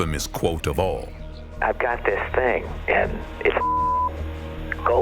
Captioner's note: beep